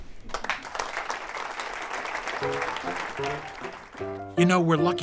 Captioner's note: applause